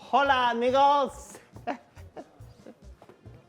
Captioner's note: Zeke laughs